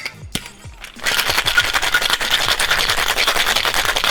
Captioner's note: ice shaking